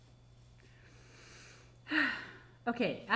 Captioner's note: sighing